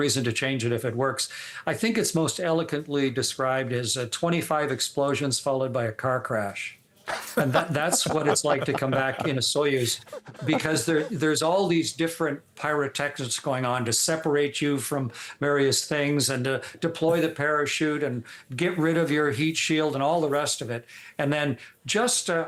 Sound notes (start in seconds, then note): 11.6 laughter